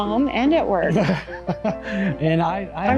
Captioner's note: Greg laughs